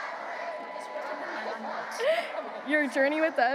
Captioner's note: students chanting; chancellor faintly speaking